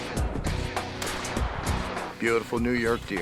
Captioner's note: gunshot fires